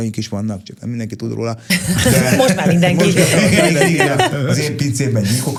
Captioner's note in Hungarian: nevetés